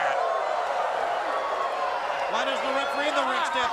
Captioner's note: crowd cheering